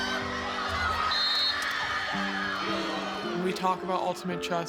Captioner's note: cheering; whistle blows